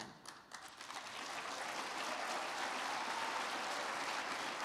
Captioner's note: crowd clapping